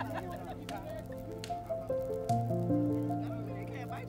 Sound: people laughing

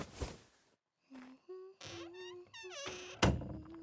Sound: 이불 바스락거리며 일어나는 소리; 콧노래 소리; 문이 열리는 소리

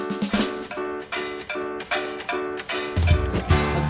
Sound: pots, Pans clatter rythymically

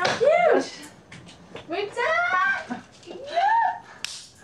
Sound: both exclaiming

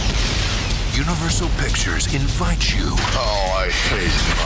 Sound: voiceover

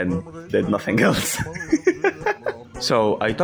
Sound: laughs

